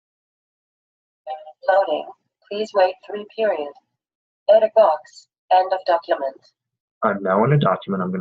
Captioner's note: device making noise